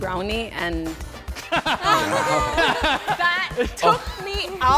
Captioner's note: laughing